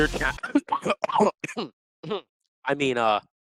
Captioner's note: cough cough